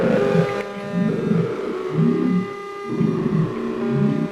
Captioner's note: snoring